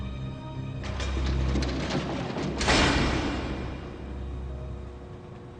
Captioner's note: prison gate clicks open